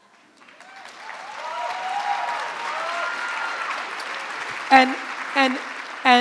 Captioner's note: crowd clapping; crowd cheering